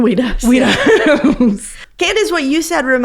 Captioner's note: laughs